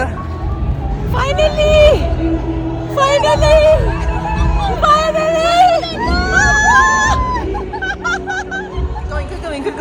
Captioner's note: laugh